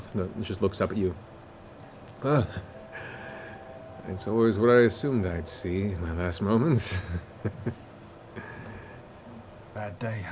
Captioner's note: chuckles